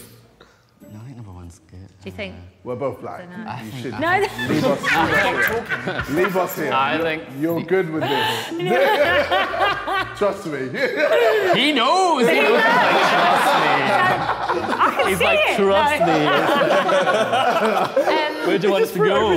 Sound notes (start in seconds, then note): 4.0 woman laughing; 12.6 all laughing; 16.3 Sidemen laughing